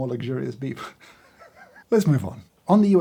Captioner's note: laughs